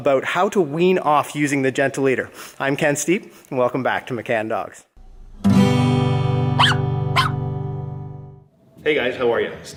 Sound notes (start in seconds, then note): 5.0 guitar strumming; 7.1 dog barking